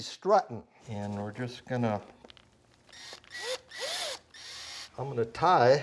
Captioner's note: screwdriver beeps and whirs